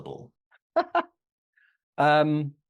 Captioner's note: laughs